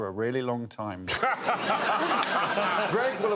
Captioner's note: laughter